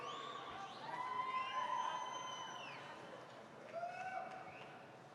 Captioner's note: applause